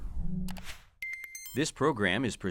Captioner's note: robotic dinging